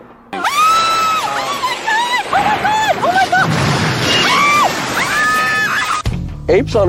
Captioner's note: screams